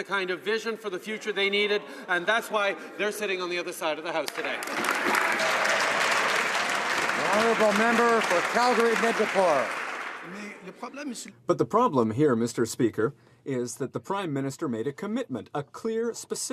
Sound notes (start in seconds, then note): 8.0 applause; 13.8 speaking French